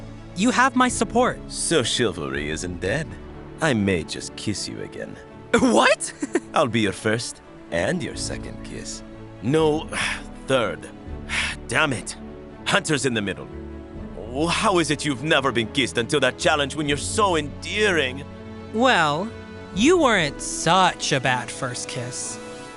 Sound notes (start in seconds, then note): 5.6 chuckles; 9.9 sighs